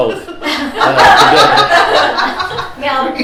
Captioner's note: laughter